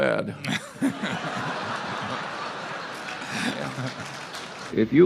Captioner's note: laughter and applause